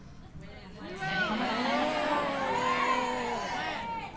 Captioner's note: cheers